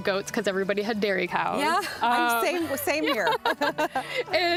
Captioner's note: both laughing